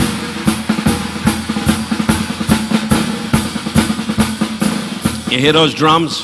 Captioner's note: Don speaking in a foreign language